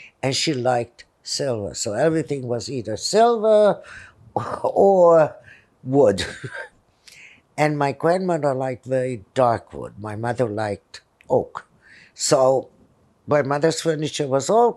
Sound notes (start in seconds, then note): 6.1 laughing